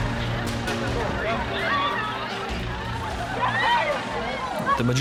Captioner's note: screams